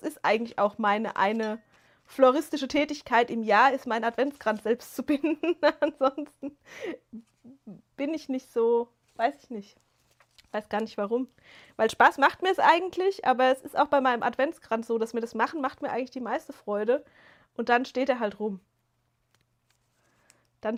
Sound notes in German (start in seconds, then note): 5.0 gelächter